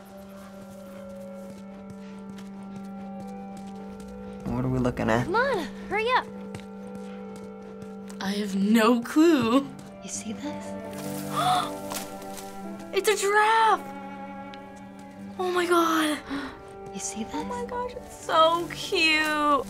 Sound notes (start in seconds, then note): 10.4 leaves rustle; 11.2 gasps; 16.0 gasps